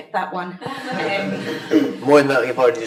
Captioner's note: all laugh